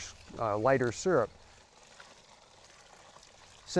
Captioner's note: sap pouring